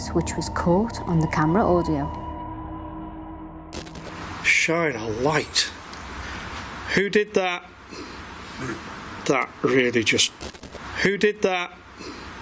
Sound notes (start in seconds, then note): 2.4 eerie music; 8.2 ghostly voice grunts; 12.2 ghostly voice grunts